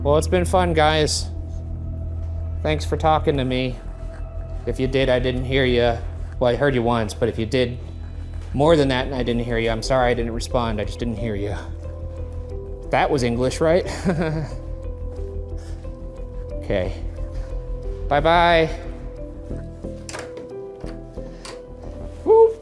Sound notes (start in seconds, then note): 13.8 laughs; 19.8 dramatic music